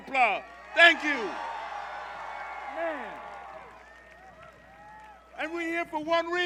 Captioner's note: cheers